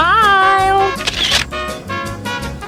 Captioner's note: camera clicks